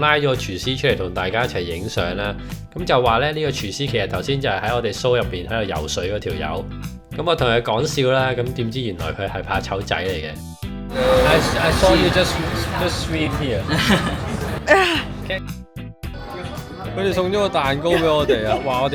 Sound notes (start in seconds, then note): 13.7 hahaha